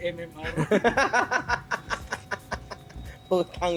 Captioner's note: laughter